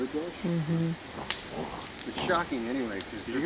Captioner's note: animal snorts